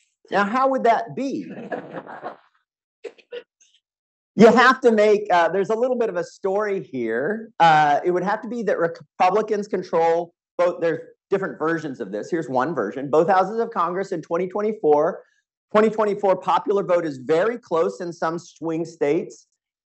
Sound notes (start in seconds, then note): 1.4 audience laughing